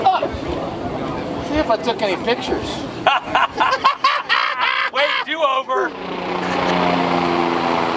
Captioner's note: laughing